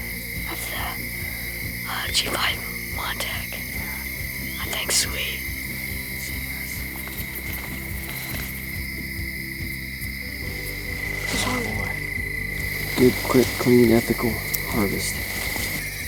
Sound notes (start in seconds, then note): 4.0 whispering